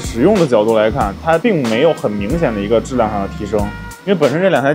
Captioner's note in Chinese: 打印